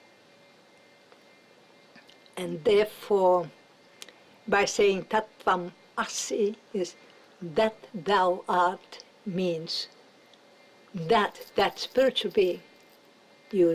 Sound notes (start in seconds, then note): none